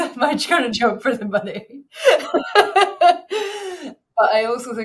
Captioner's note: chuckles